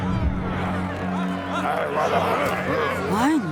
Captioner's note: grumbling